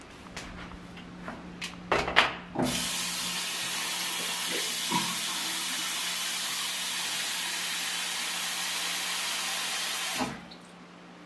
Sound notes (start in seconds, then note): 2.6 water running; 9.6 water stops running